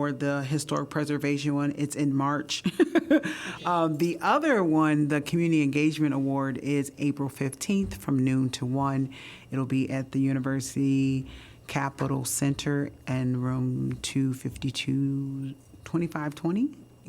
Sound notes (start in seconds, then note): 2.6 laughter